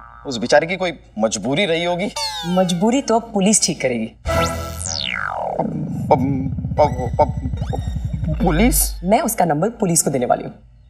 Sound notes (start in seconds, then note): 5.7 Stammering